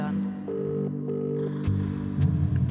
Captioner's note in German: Telefon-Anklopfton